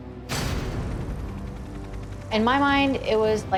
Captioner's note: helicopter blades whirring